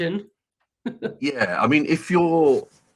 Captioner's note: laughs